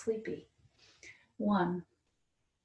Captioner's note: breathes